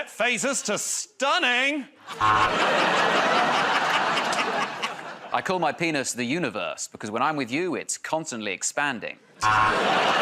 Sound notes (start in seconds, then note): 2.1 laughter and applause; 2.1 buzzer